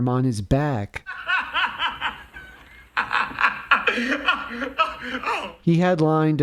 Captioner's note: laughter